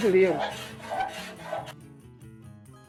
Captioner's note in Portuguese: lixa raspando